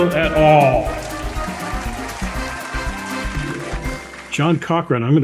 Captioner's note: audience cheering